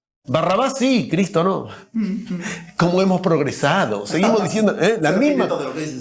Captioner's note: laughter